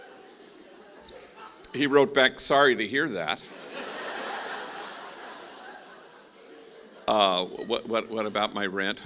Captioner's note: laughing